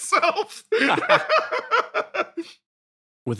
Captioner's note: laugh